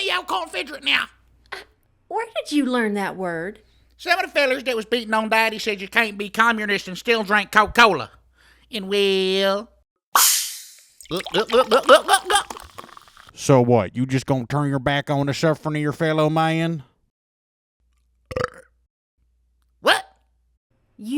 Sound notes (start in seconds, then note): 11.1 gulp, gulp, gulp; 18.3 burps